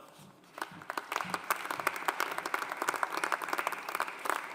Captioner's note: audience applauding